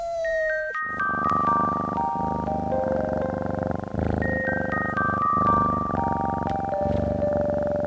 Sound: cat meowing; cat purring; ethereal music

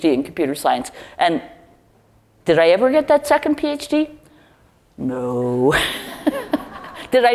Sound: laugh

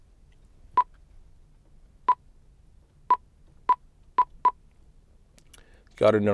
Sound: beeping

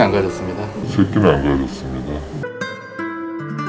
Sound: echoes

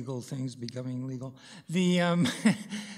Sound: chuckles

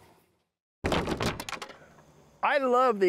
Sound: wood clatters

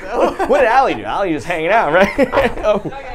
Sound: laughs

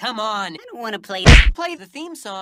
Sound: punch

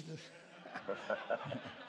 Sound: laughter

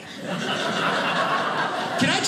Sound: audience laughing

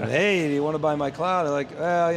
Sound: laughing

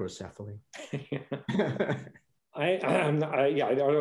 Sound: laughing

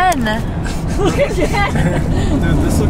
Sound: laughs

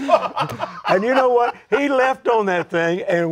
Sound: laughs

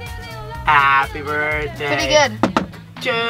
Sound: fingers knocking

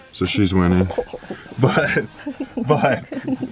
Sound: chuckling

